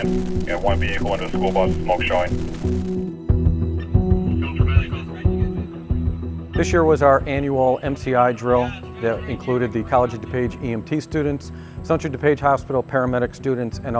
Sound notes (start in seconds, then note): 3.4 dramatic music; 5.6 people yelling indiscreetly